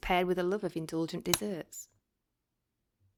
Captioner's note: click noise